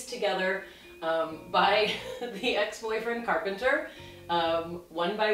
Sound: laughing

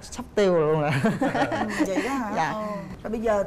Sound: laughing

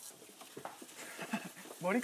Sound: haha

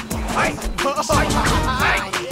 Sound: laughs

